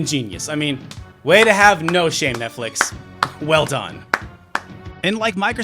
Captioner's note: clapping